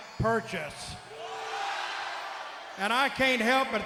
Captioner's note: crowd exclaiming